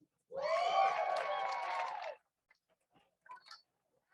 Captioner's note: crowd cheers